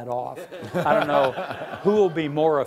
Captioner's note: laughing